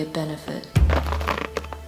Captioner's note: Crunch